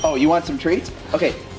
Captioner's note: ding